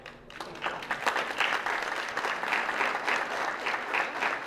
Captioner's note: applause